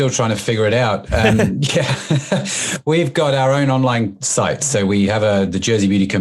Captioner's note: laughs